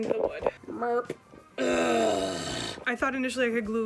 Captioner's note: groan